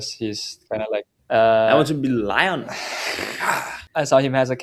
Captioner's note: roar